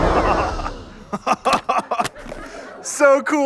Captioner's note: laughs